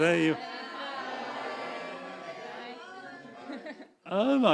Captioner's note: audience chuckling; audience calling out